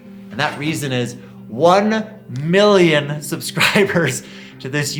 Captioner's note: laughs